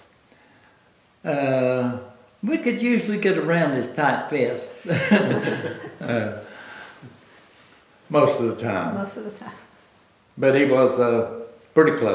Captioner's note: laughter